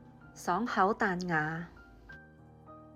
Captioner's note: Cantonese